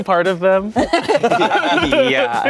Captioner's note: everyone laughs